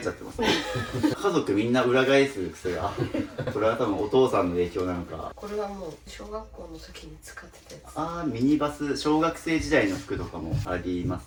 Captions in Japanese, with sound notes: [笑い] 家族みんな裏返す癖が。これは多分お父さんの影響なのか。 これはもう小学校の時に使ってたやつ。 ああ、ミニバス。小学生時代の服とかもありますね。ちなみにこれ